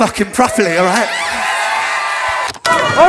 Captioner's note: crowd cheers